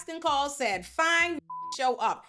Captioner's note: beep